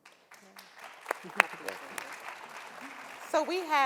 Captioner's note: audience applauding